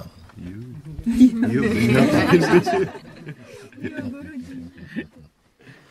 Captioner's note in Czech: smích